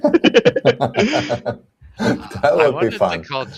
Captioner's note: laughter